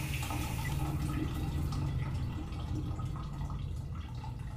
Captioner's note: shower turns off